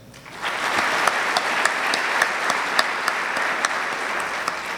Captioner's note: audience clapping